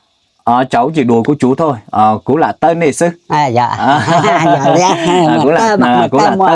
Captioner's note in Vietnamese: tiếng cười